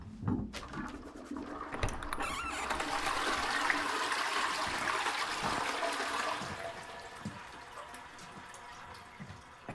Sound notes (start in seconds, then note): 0.7 toilet flushes